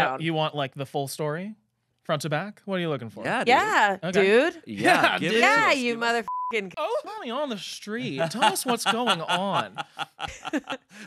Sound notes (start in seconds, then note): 6.2 beep